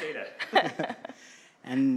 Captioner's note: chuckling